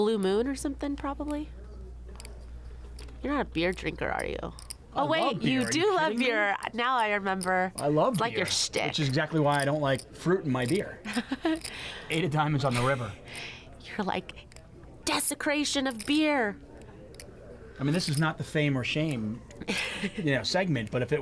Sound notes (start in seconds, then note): 11.1 laughing